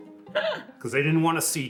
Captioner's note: person laughing